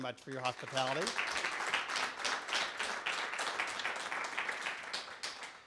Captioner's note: clapping